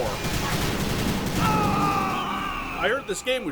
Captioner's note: hawk screeching; Tommy screams